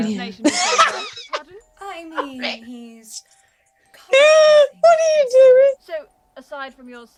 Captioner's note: laughs